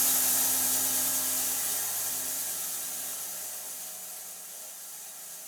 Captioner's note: sawmill noise decreasing gradually